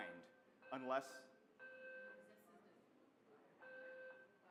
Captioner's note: beeping noise